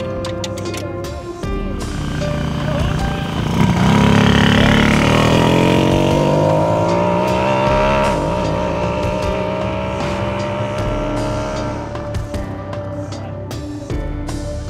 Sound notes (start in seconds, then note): 3.3 engine revving